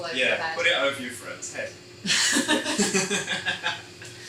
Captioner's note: both laughing